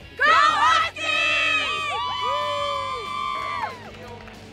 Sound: cheering

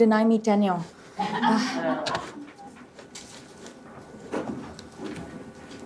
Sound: laughter

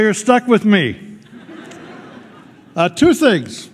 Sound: laughter

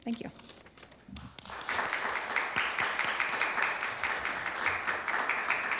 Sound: applause

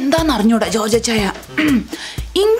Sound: clears throat

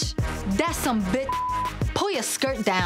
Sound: beep

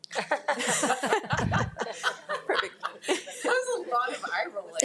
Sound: board members laughing

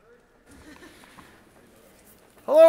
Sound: audience chuckles

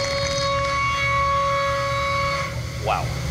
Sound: machining noises

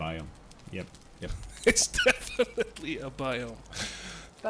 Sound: laughs

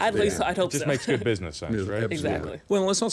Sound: laughing

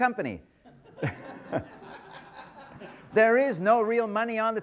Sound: audience laughter

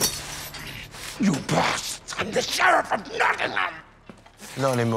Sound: straining

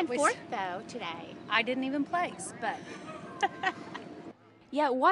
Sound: laugh

